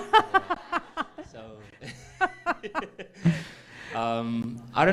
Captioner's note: Hamilton laughing